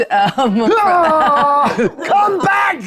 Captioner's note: screams